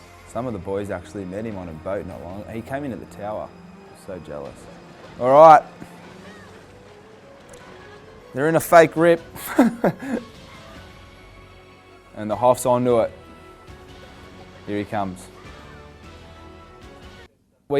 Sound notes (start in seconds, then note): 0.0 intense music; 6.3 boy yelling; 6.3 intense music; 9.3 laughs; 15.8 heroic music